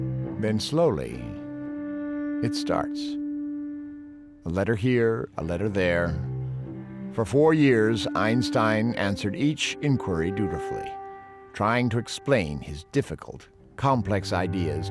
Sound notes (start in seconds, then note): none